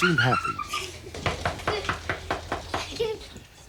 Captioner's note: laughing